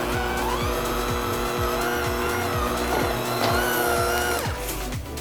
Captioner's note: handmixer whirs